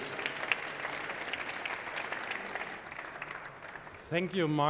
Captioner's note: applause